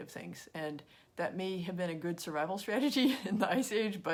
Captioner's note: chuckles